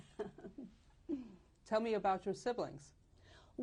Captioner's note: laughs